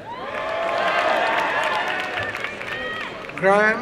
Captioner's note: applause and cheering